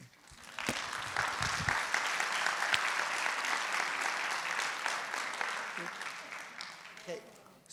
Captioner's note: audience applauds